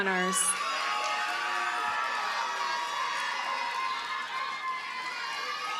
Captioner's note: audience cheers and applauds